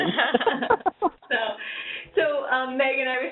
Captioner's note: laughs